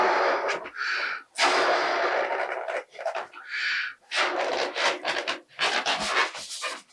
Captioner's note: blowing